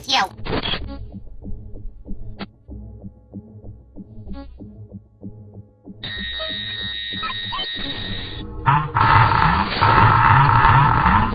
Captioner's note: glitch sounds